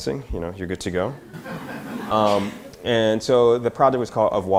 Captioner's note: audience laughter